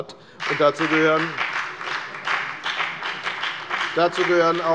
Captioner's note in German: Beifall bei der FDP